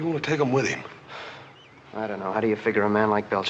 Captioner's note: sighs